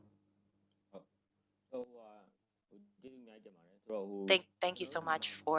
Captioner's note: speaking burmese